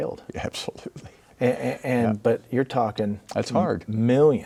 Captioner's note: laughing